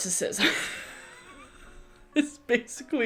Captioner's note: laughs